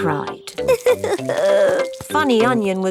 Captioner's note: crying